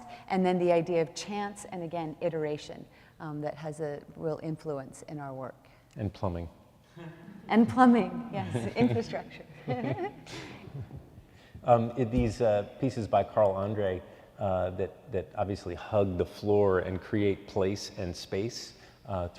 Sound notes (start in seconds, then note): 8.4 laughs